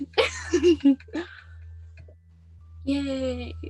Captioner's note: laughing